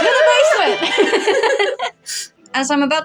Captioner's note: both Laugh